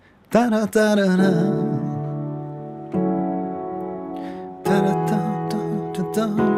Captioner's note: humming a rhythm - to generate an idea